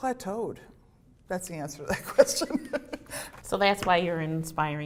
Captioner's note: laughter